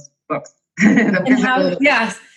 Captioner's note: laughing